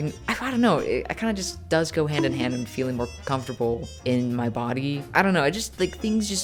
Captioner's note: bonk